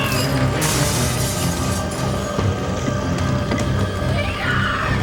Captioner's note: chandelier crashes